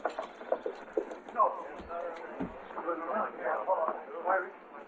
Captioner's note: bystanders chattering